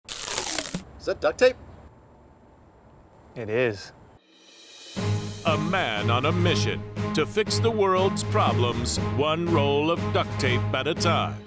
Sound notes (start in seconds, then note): 0.0 tape being unwound; 4.3 dramatic music